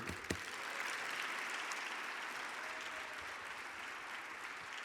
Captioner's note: audience applauding